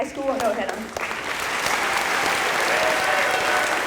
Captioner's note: applause